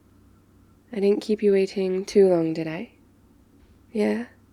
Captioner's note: door opens; doors close